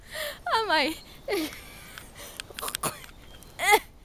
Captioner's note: laughs